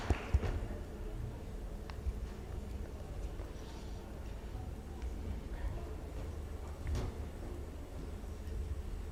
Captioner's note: audience applauds